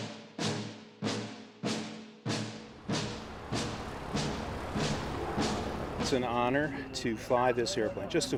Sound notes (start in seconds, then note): 2.7 airplane engine hums